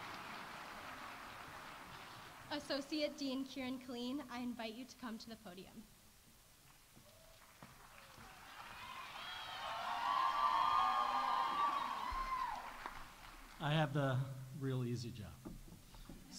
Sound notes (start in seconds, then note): 7.1 audience applauding; 7.1 audience cheering